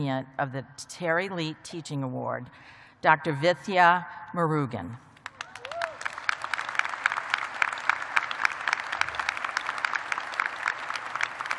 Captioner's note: cheers and applause